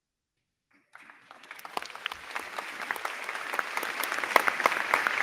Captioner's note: crowd clapping